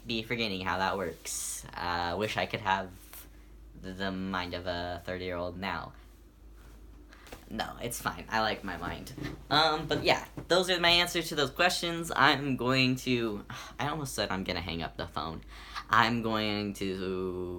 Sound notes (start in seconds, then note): 13.0 sigh